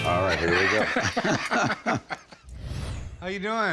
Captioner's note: both laugh